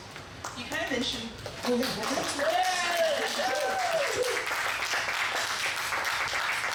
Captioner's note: audience clapping and cheering